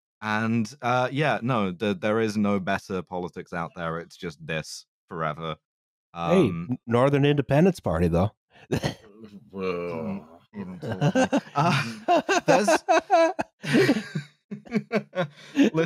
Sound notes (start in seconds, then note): 11.4 sounds of disgust; 12.4 laughter